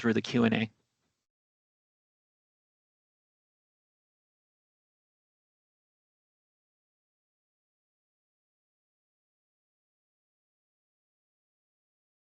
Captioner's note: pause